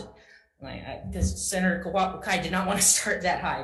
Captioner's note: speaks Hawaiian